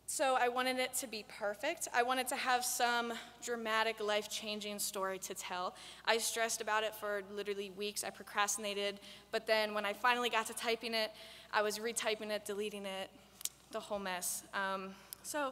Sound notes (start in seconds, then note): none